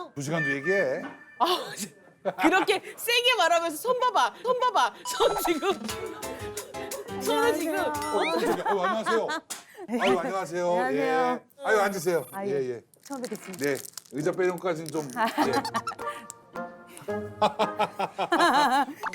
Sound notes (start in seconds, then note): 15.2 giggles